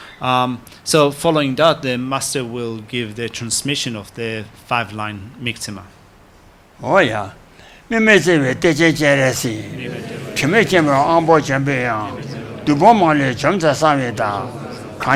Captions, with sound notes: So following that then, Master will give the transmission of the five line Mingtsema. - (speaks foreign language) (congregation respond in foreign language)